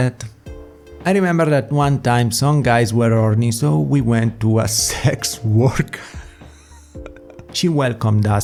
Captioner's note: laughs